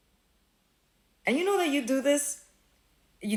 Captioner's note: none